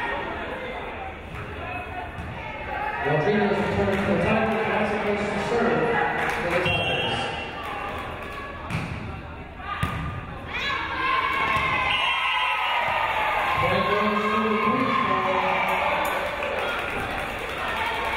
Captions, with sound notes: The tigers have the serve for the ties. (crowd cheering) Point for Queensborough.